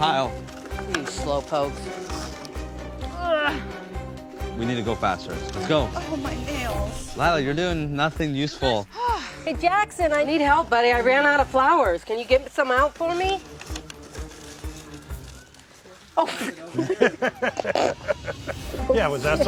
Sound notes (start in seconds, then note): 16.2 laughing